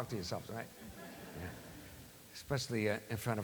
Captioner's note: laughter